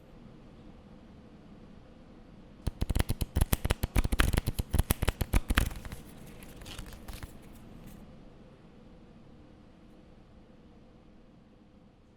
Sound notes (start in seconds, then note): 2.6 cards rustling